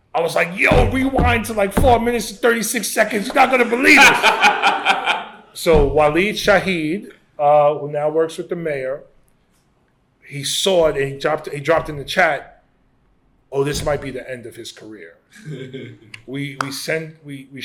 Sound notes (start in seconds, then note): 3.6 laughter